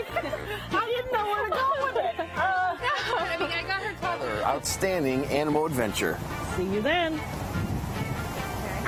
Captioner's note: laughing